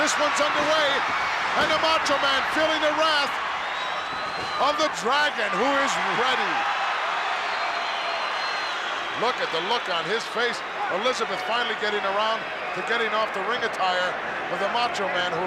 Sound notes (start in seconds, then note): 6.8 crowd cheers